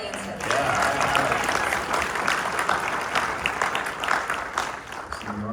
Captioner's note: applause